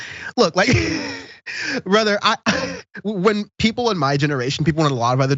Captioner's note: laugh